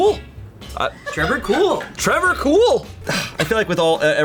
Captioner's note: colleagues laughing